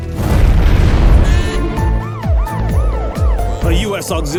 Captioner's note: siren wailing